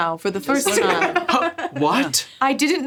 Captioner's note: gasps